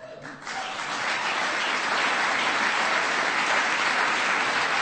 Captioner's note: applause